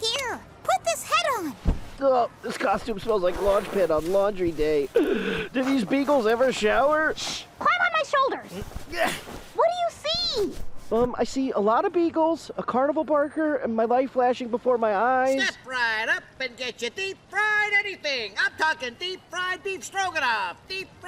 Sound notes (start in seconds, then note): 4.9 gasps